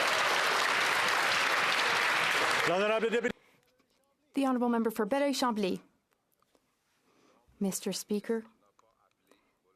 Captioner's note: some Applause